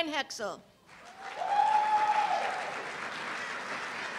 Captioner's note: cheers and applause